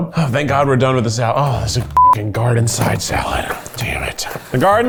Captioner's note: beep